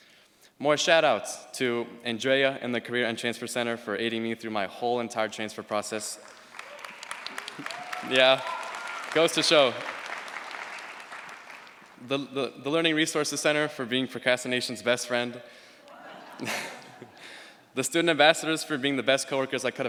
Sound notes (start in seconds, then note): 6.2 cheers, applause; 15.9 laughter